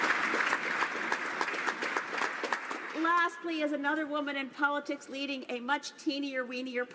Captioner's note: applause